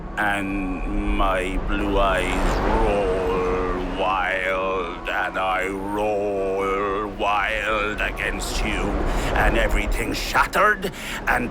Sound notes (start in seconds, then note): none